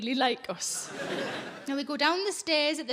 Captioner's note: audience laughing